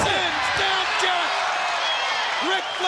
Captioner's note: audience cheers